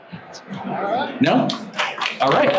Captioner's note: audience applauds